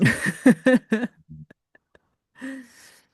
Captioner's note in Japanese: 笑い